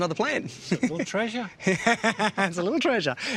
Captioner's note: laughs